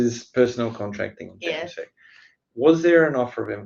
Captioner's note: speaks faintly